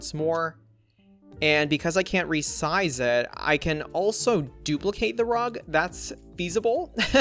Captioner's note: laughs